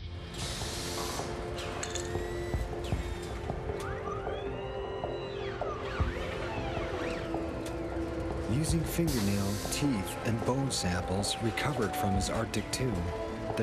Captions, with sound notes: (hopeful music) (buzzing) - [Voiceover] Using fingernail, teeth and bone samples recovered from his Arctic tomb,